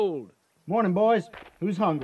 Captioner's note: muffled, through sack